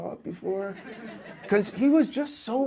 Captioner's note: audience laughs